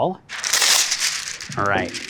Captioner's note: paper tearing